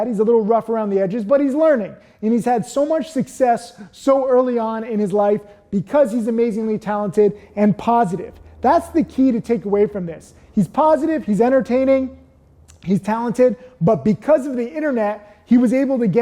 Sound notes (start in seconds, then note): none